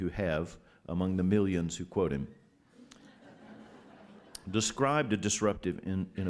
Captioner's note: laughter